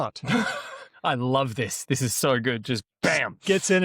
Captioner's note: laughs